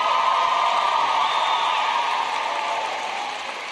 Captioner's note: cheers and Applause